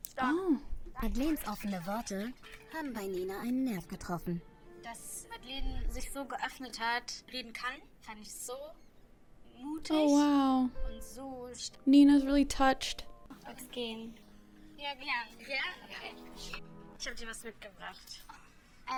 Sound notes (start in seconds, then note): 1.0 show host speaking in German; 4.9 speaking in German; 11.0 speaking in German